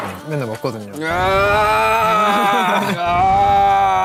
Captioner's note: ahhh